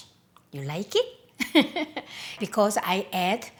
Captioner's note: laughs